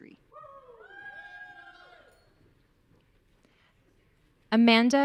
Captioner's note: audience cheering